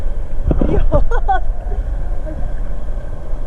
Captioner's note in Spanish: risa nerviosa